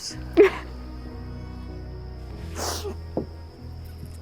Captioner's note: sobbing